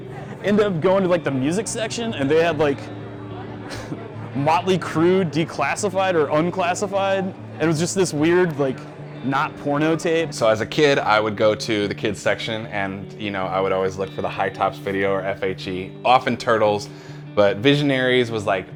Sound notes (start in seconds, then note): 3.2 laughs